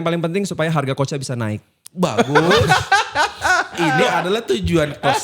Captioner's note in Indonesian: tertawa